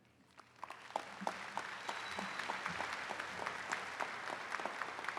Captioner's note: attendees clapping